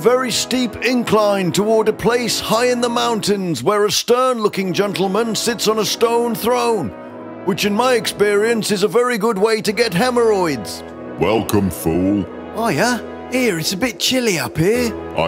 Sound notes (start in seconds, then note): none